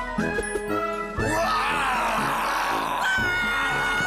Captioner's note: both growling